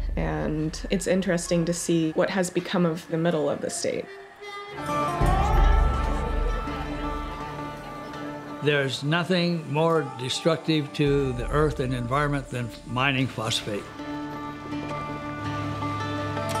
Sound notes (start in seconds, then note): 5.4 overlapping chatter; 5.4 southern gothic music